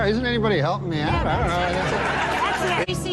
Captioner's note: laughter